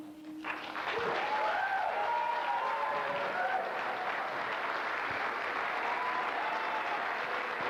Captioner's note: applause